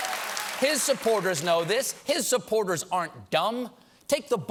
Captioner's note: cheers and applause